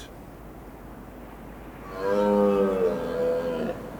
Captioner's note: bellows